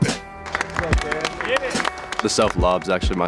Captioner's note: cheering